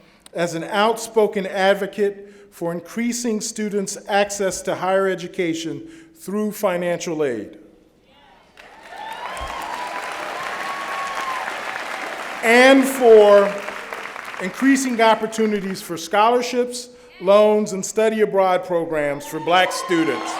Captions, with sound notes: as an outspoken advocate for increasing students' access to higher education through financial aid. [ Applause ] And for increasing opportunities for scholarships, loans, and study-abroad programs for black students.